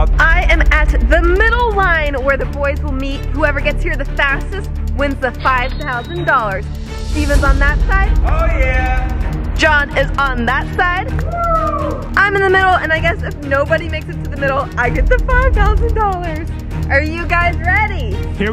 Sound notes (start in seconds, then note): 8.1 yelling; 11.2 whooping